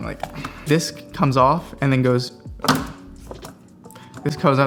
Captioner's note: metal slamming